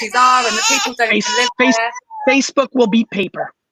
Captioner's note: crying